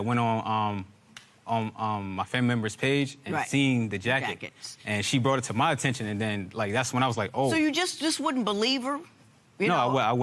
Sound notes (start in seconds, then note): none